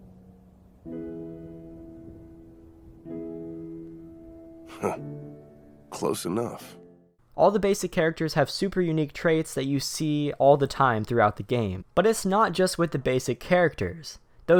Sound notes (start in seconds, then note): 0.0 somber piano music; 7.4 voiceover